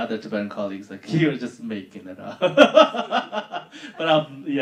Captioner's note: laughing